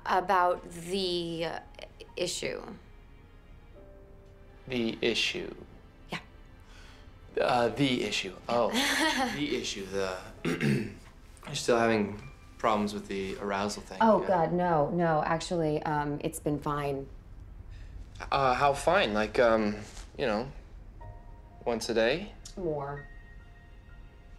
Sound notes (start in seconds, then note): 8.7 chuckling; 10.4 clearing throat